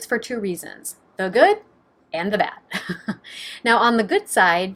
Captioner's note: chuckling